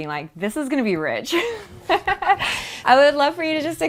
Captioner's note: laughs